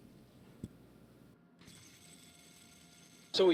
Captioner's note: awkward silence